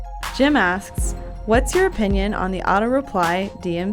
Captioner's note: voiceover